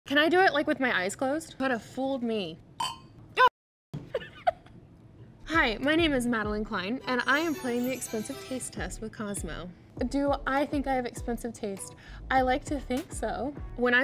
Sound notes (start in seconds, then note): 4.3 Madelyn laughs